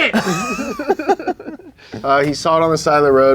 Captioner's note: laugh